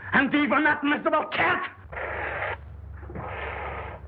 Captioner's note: hissing